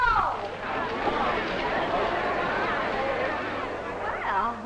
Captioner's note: group chattering